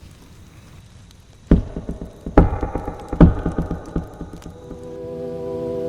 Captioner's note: three slow knocks